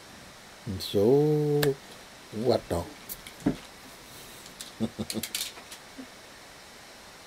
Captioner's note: laughs